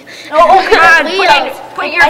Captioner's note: overlapping shouting